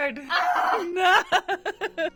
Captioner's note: groans; laughs